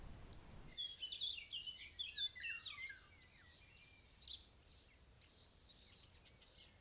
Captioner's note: nature sounds following until fade-out....by and thanks for watching